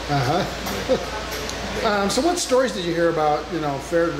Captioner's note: laughing